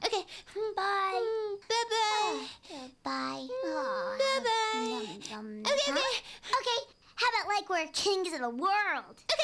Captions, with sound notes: OKAY! BYE... HMM...BYE-BYE... BYE. ( Yawning ) BYE-BYE! OKAY...OKAY... HOW ABOUT LIKE WE'RE KINGS OF THE WORLD!